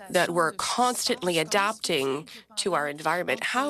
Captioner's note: speaking French